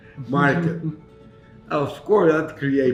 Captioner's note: chuckles